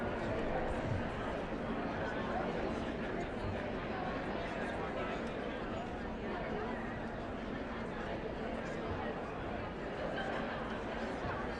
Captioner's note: indistinct chatter